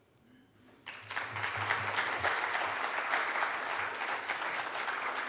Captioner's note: audience applauds